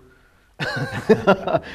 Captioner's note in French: rires